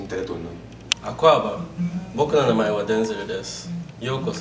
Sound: foreign language

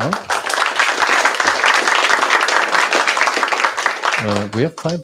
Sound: applause

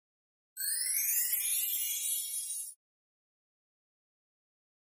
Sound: bells chime

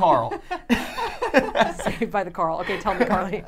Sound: laughing

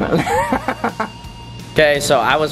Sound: laughing

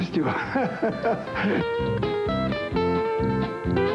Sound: laughter

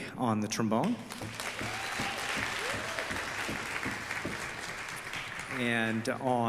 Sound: audeince applause

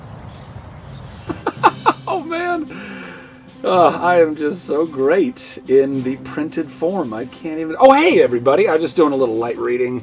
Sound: laughing

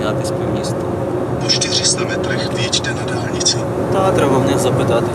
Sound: in the background the navigator speaks Czech

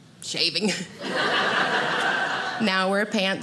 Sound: audience laughing

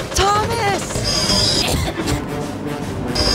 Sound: intense wheel-slip; coughing

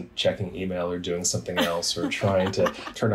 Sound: all laugh

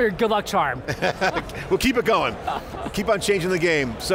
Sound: laughs

